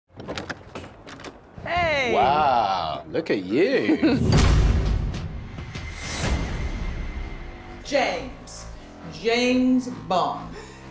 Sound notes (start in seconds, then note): 3.7 jessie chuckles